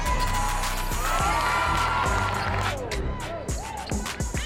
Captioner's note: crowd cheering; crowd